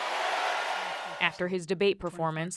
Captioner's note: cheering and applause